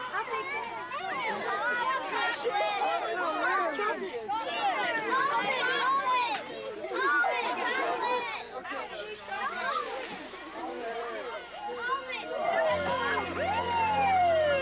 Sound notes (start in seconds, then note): 7.4 crowd chattering; 10.2 police car sirens; 10.2 tense music